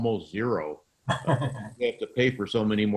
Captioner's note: laughing